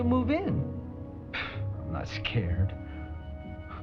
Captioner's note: scoffs